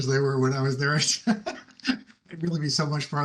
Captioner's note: laughs